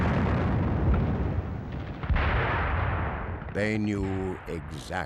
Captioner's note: bombs exploding